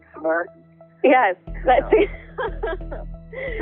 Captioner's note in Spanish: risas